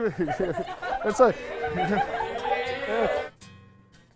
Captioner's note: laughing